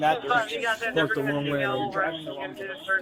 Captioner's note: radio chatter